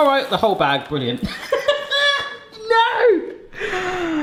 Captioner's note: laughs